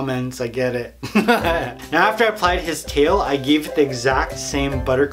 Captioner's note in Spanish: Risas